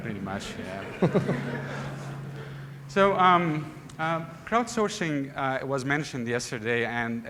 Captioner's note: laughter